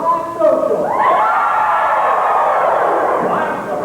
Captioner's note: cheering